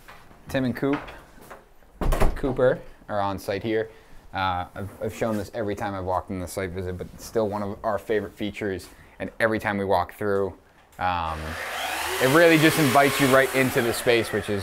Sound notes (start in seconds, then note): 11.2 saw buzzing